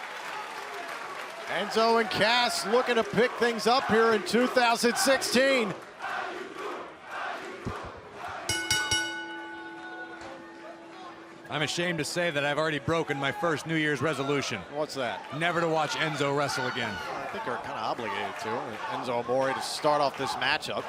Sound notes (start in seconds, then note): 0.0 cheers and applause; 5.7 fans chanting; 6.8 bell ringing